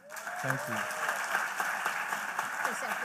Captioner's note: applause